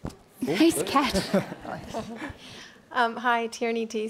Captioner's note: laughing